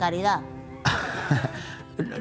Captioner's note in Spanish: Risas